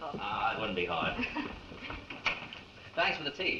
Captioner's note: chuckles